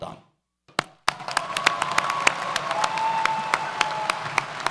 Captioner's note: audience cheers